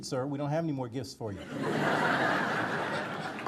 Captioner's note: audience laughter